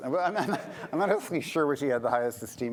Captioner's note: laughter